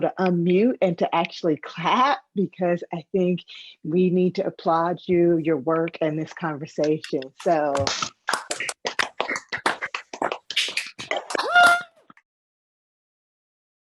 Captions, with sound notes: to unmute and to actually clap, because I think we need to applaud you your work and this conversation. (participants clapping)